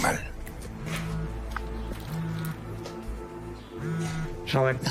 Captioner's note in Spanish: Suena el celular